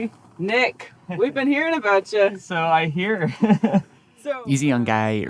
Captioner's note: laughs